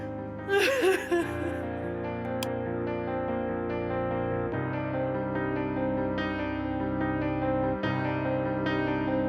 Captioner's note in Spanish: llanto